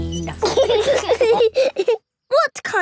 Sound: laughing

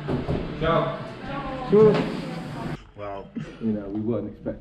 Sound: speaking foreign language

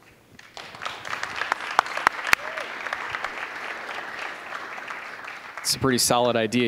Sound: applause

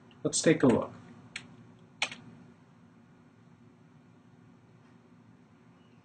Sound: clicking

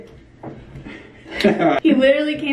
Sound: laughing

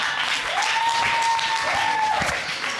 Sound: audience cheering

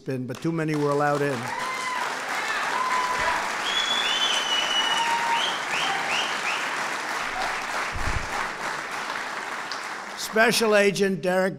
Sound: applause

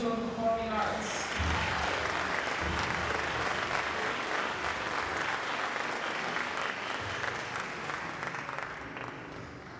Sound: applause

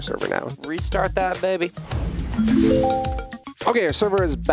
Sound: whoosh and chimes

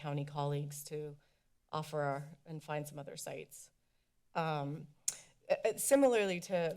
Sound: click tounge

